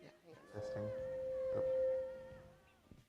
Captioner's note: microphone feedback